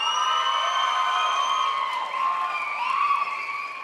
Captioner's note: crowd applauds